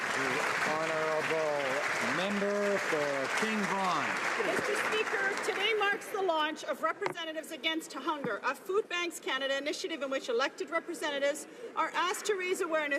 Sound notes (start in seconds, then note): 3.1 some Applause